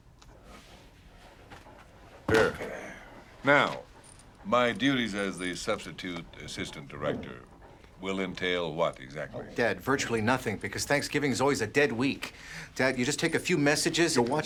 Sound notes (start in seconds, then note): 2.2 groans